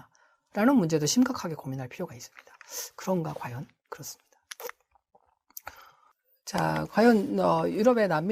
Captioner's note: voiceover